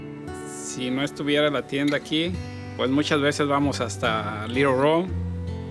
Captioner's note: speaks in foreign language